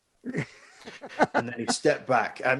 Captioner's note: laughing